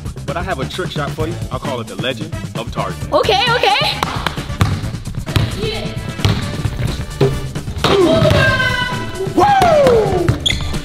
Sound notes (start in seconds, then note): 4.5 ball bouncing; 7.8 cheering; 10.6 upbeat music